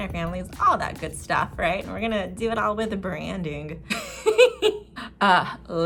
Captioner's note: giggle